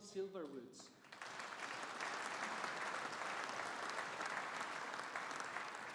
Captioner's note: audience applauding